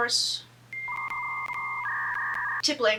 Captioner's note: computer start up noises